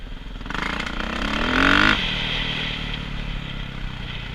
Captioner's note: engine revving